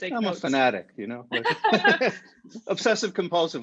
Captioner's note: laughing